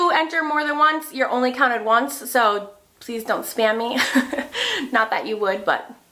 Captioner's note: laughs